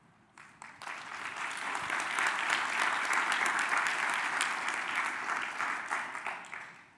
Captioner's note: audience applause